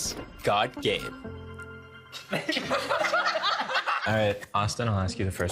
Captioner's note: all laughing